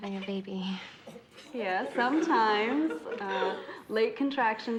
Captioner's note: all giggling